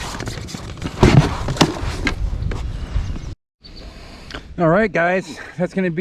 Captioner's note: fish flopping